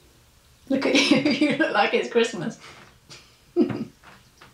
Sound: laughs; chuckles

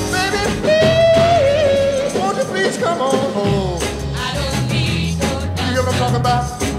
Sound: hmmm hmm

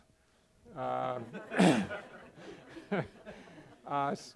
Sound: laughter

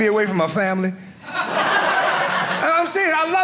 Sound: audience laughing

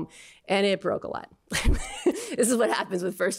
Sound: laughter

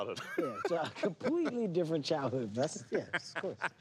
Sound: laughs

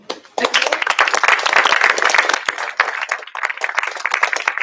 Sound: applause

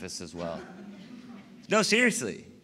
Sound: laughter

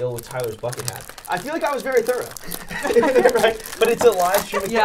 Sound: laughing

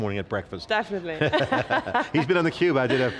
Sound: laughs

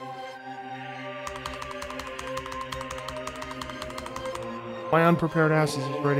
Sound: angry typing noises

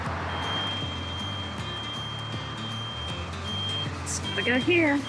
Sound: vehicle beeping

